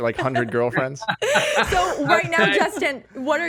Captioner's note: laughs